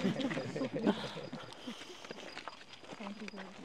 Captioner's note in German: Lachen